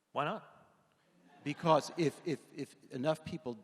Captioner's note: audience laughing